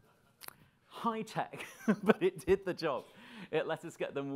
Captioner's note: laughing